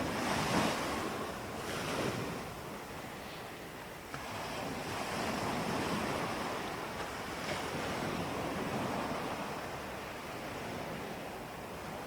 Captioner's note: breathing